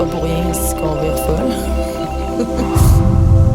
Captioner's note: rire